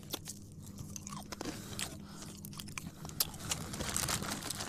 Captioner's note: munching